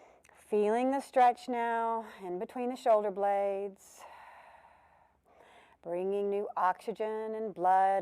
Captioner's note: breath sound